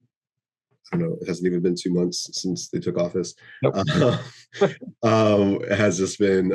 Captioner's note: wry laughter